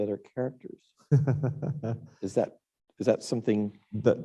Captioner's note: laughing